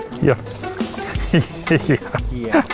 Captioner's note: laughing